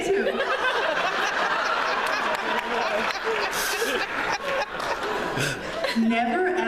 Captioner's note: laughter